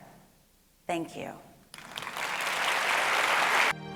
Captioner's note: applause